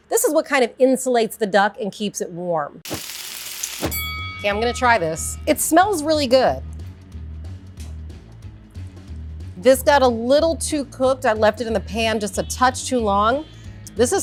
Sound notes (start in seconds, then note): 2.8 pan sizzling; 3.6 bell rings; 8.0 upbeat music